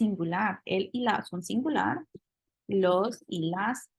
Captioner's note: spanish